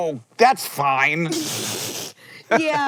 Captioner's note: BOTH laugh